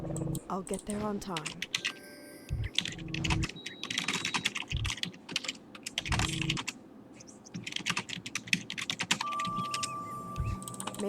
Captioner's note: typing sounds